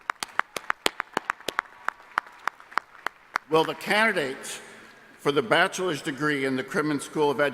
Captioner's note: applause